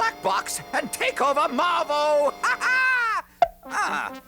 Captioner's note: laughing